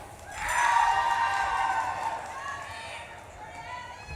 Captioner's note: audience claps and cheers